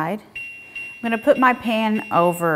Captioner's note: stove top beeping